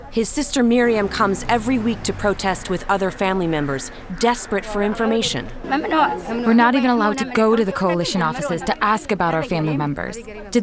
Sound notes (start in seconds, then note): 5.8 through translator